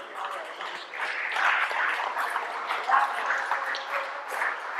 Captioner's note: applause